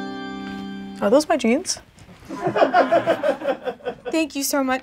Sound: laughing

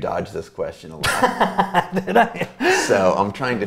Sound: laughs

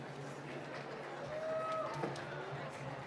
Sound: applause

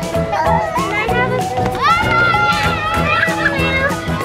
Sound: children yelling

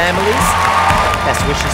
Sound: cheering

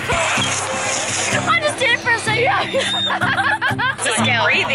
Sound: whistles

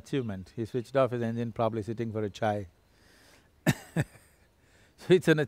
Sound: laughs

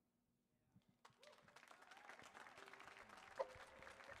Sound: audience applaud

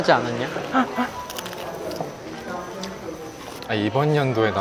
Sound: laughing

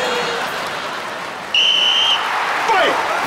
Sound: whistling

